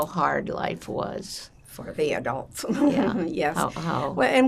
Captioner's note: laughing